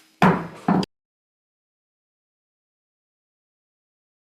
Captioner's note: gavel banging